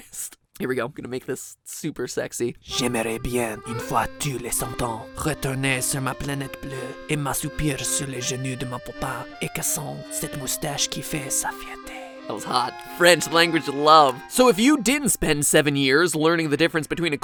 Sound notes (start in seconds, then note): 2.2 reads above lines in ~sexy~ French accent